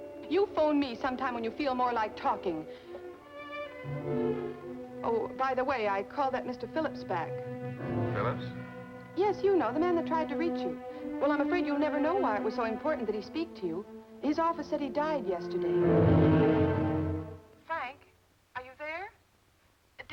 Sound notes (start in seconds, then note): 8.0 on phone